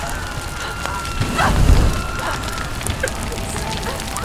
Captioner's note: sound of screaming, wailing; gasp